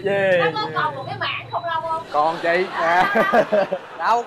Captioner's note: laughing